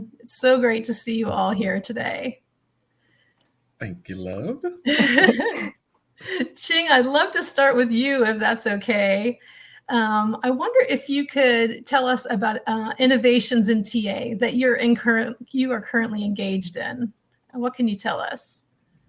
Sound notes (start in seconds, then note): 4.8 laughs